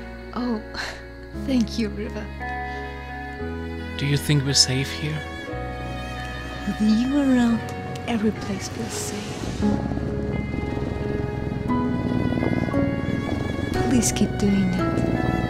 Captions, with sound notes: Oh, thank you, River. Do you think we're safe here? With you around, every place feels safe. [purring intensifies further] Please keep doing that…